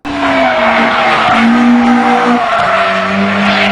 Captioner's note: engine humming